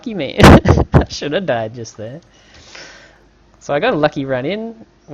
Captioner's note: muffled laugh